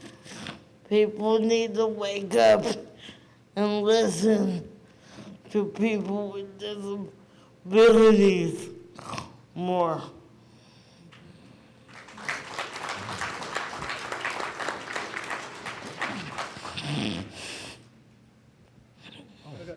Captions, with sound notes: People need to wake up and listen to people with disabilities more. (audience claps)